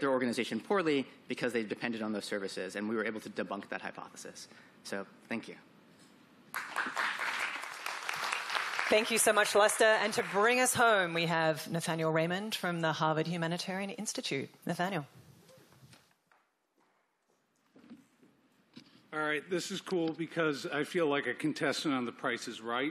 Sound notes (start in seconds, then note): 11.1 applause